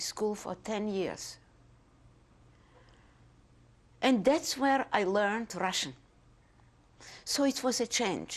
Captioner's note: pauses for 3 seconds